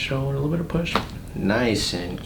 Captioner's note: cracking noise